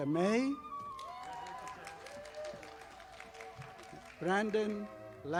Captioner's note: audience applauding